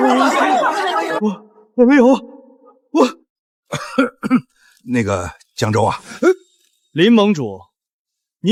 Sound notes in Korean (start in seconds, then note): 3.7 콜록 콜록